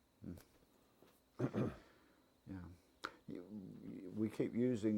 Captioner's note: cough